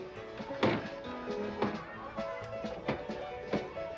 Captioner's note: doors banging; lively saloon music